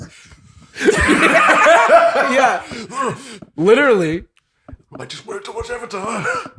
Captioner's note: hysterical laughter